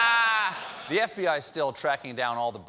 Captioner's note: laughter